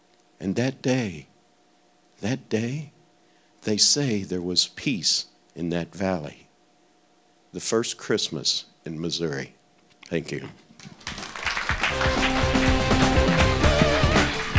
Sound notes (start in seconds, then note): 10.8 audience clapping; 11.8 instrumental music